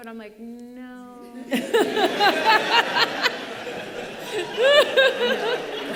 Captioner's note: laughing